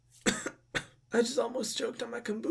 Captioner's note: coughs